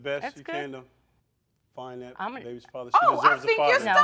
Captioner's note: both stuttering